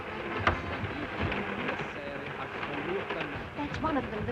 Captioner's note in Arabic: تلعب الموسيقى الشعبية; صوت خشخشة القطار